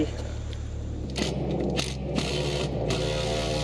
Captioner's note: impact drill whirring